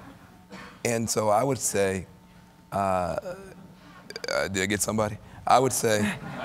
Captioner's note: laughter